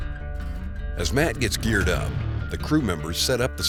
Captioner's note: voiceover